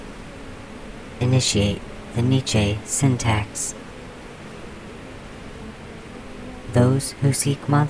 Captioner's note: The Buzzing voices